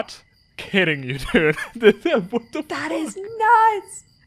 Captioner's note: laughing